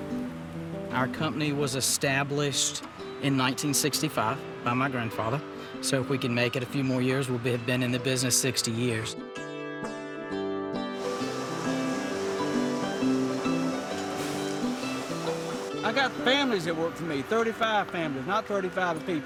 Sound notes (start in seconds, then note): 9.6 appalachian folk music; 10.9 machinery humming